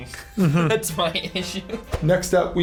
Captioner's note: laughs